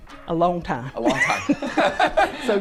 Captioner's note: laughs